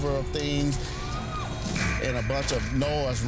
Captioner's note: screams